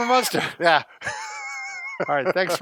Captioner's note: laughter